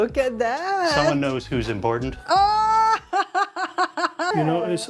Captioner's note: laughs